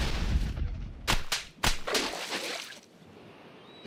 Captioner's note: tentacles slapping